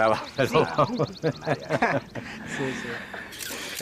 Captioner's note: laughing